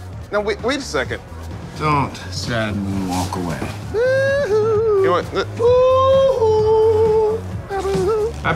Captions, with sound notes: No, wait a second. Don't suddenly walk away. (yelling)